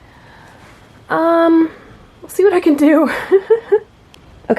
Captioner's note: laughs nervously